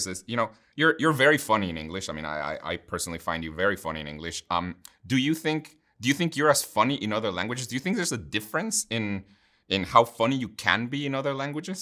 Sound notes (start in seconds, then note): none